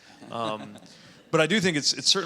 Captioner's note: audience laughing